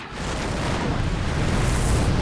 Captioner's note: explosions